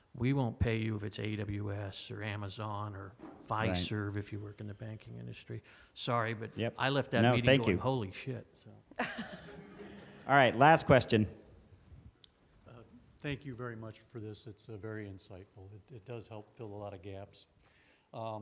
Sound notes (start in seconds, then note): 9.0 laughs; 9.0 crowd laughs